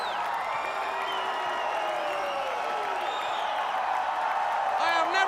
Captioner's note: crowd cheering